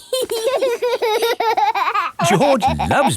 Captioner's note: laughing